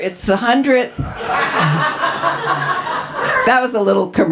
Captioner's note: audience laughs